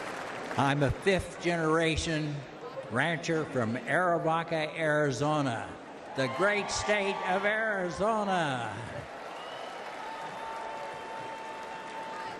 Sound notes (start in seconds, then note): 0.0 applause; 1.7 laughs